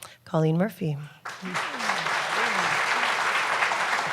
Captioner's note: applause